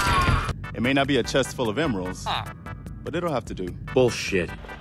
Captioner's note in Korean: 마크 주민 소리